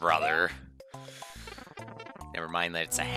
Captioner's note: inhaling